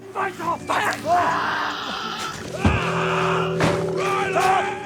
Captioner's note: Eddy shrieking